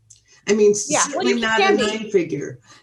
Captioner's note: both laugh